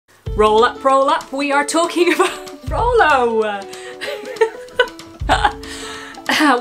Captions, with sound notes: - Roll up, roll up, we are talking about, (chuckling) Rolo! (laughing)